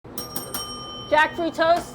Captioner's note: bell ringing